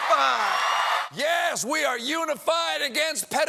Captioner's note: cheers and applause